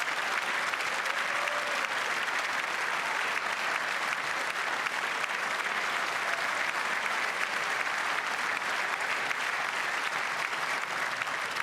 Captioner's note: cheers and applause